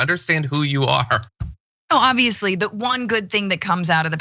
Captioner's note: laugh